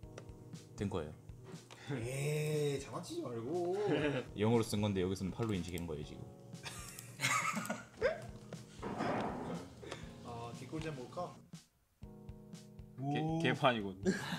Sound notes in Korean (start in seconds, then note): 6.6 너털웃음; 14.0 웃음